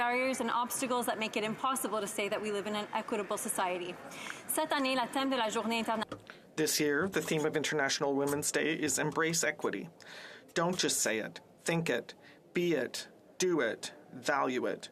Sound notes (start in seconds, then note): 9.5 speaking French